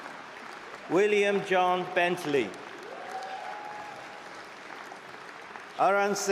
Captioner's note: cheering and applause